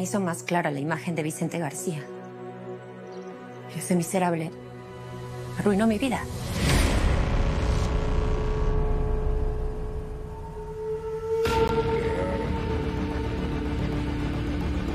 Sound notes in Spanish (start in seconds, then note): 11.5 Quejihmdos